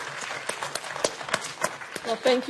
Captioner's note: applause